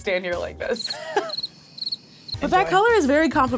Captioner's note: crickets chirping